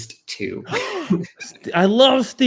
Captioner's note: laughs